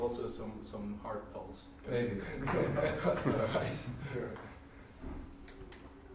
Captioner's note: laughter